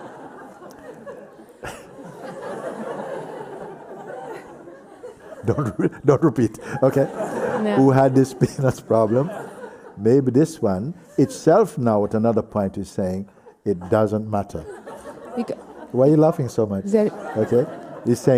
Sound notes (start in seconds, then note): 1.7 laughs; 7.0 laughs